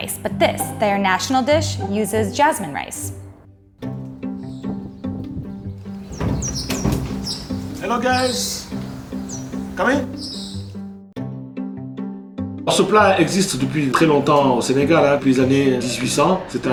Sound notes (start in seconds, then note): 3.8 birds chirping; 3.9 light music; 12.7 speaking in foreign language